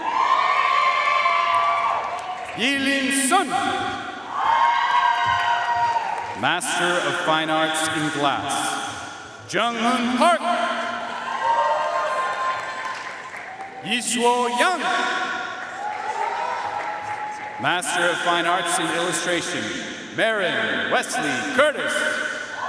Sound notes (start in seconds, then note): 0.0 audience cheering and applauding; 4.2 audience cheering and applauding; 10.9 audience cheering and applauding; 15.4 audience cheering and applauding